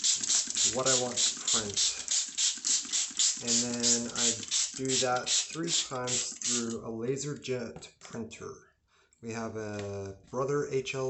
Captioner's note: printing